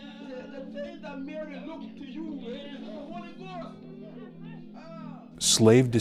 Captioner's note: people chattering among each other